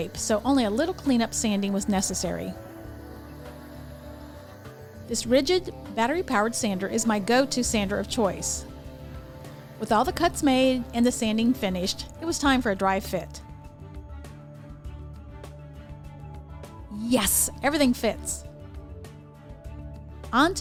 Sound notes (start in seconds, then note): 3.0 sander buzzing; 14.5 gentle music; 18.7 gentle music